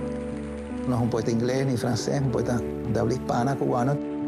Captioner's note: speaking Spanish